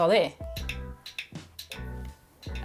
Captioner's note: clicks clicker